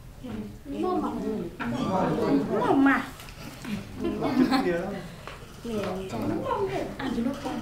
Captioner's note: chattering